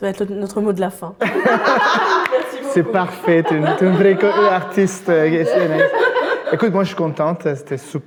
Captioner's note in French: rires